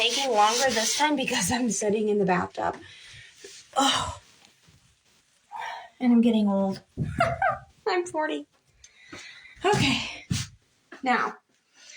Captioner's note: laughs